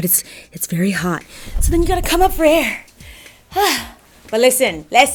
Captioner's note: exhales